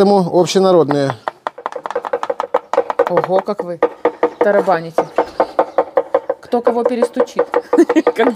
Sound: laughter

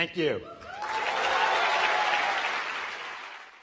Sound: applause

